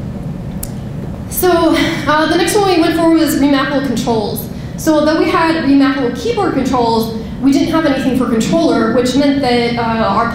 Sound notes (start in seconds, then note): none